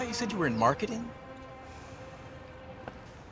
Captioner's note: sighs